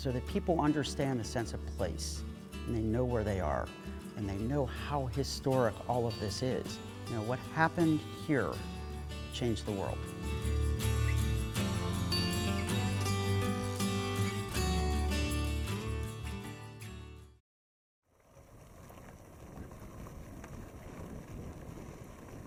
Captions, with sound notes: so that people understand the sense of place and they know where they are and they know how historic all of this is. You know, what happened here, changed the world. (bike whirring)